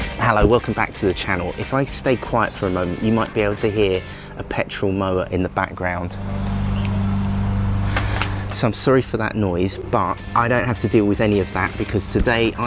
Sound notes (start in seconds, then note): 6.9 petrol mower noise